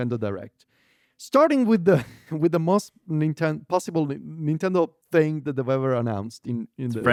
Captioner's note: laughs